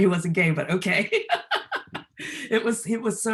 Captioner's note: laughter